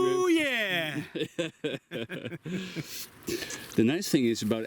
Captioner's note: laughs